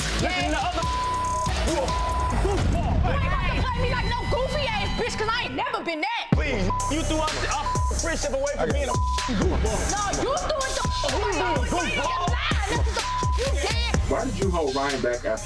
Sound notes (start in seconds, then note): 0.8 beep; 6.5 beep; 12.6 beep